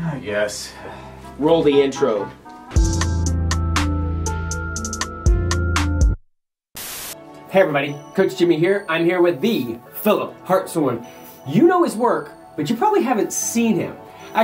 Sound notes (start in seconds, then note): 0.6 sighing; 3.5 upbeat music; 6.7 static